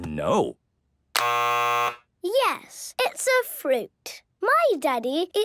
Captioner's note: buzzes